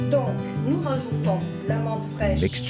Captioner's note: speaks native language